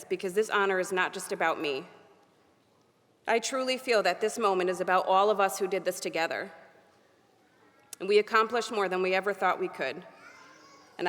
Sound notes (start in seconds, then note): none